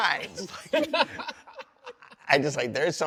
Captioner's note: all laugh